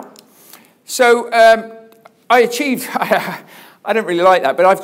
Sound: laughs

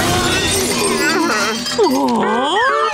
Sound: groaning

